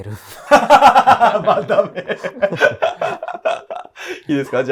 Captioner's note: laughing